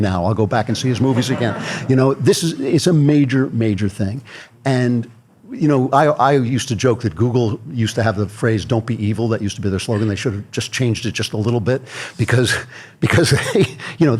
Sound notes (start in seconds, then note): 0.8 audience laughter